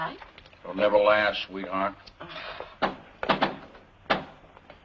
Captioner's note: knocking at door